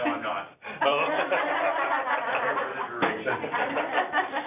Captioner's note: all laughing